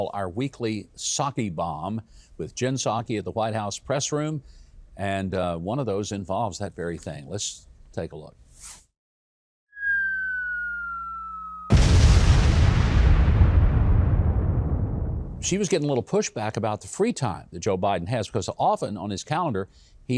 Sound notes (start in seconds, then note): 9.6 missile falling; 11.6 loud explosion